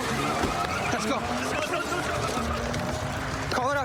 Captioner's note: shouting